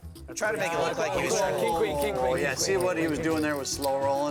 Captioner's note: group chatter